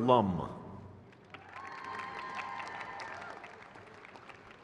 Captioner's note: crowd cheers